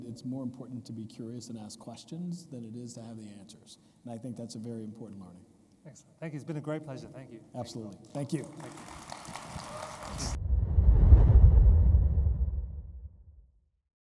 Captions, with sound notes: it's more important to be curious and ask questions than it is to have the answers, and I think that's a very important learning. - Excellent. Thank you. It's been a great pleasure. Thank you. - Absolutely. Thank you. (audience applauds) (graphics whooshing)